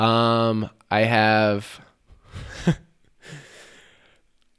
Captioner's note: laughs